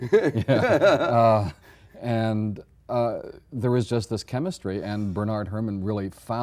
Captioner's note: both laughing